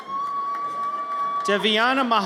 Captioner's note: audience cheers